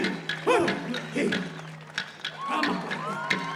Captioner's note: cheering and applause